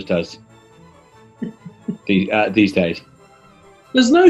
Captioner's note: chuckling